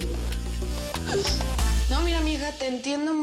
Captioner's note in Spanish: Sollozos